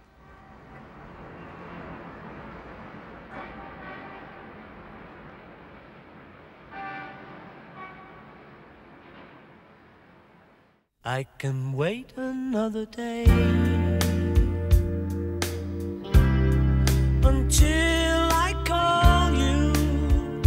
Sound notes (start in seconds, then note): 0.1 distant traffic humming; 6.6 distant car horns beeping